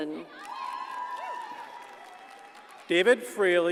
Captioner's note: audience cheers and applauds